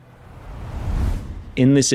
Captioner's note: logo whooshing